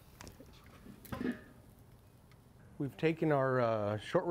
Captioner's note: metal thudding